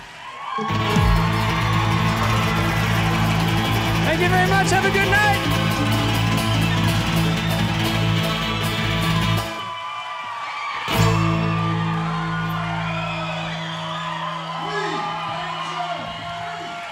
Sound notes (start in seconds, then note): 6.0 audience cheering and applauding